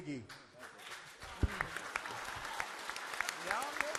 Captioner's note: applause